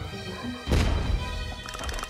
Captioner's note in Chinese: 咚!